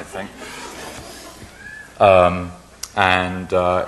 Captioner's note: laughing